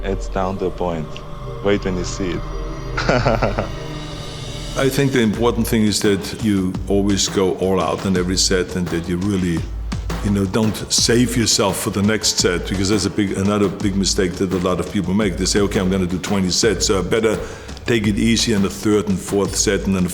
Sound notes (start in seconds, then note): 2.9 laughing